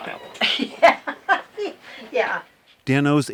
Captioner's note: laughs